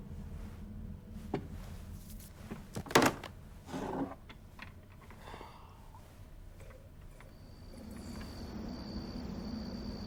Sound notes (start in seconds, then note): 4.8 Nick sighs; 7.1 crickets chirp